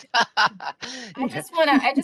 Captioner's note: laughing